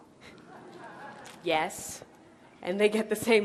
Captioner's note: light laughter in the audience